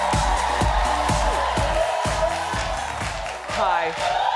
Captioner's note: upbeat music; audience cheering